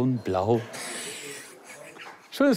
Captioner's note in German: lacht